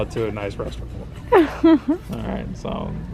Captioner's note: laughs